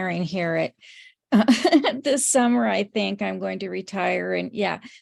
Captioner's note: laughs